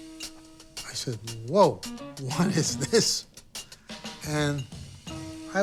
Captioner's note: laughs